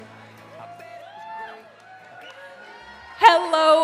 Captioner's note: audience cheering